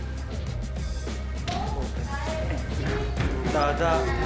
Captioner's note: the clock is ticking